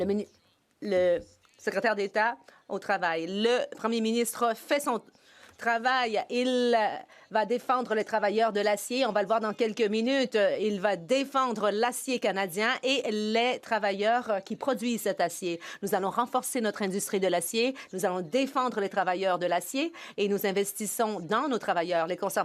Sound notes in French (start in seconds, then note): 3.6 voix de l'interprète